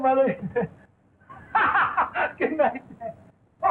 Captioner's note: laughs